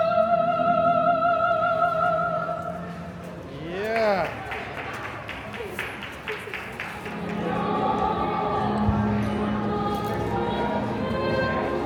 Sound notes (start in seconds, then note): 6.3 audience applauding